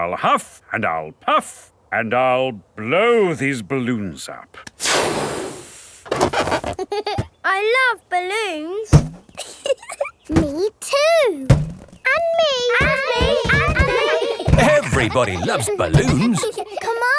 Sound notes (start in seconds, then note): 6.5 chuckles; 9.3 chuckles